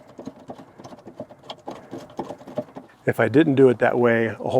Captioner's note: tapping